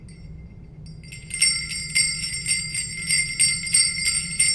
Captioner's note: jingle bells ringing